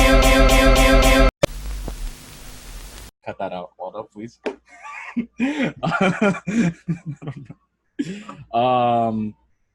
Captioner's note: laughs